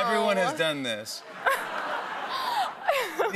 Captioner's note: laughter